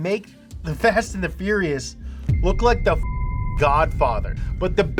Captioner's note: beep